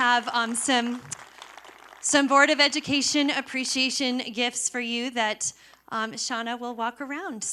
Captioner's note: applause